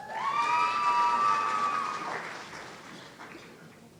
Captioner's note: audience cheering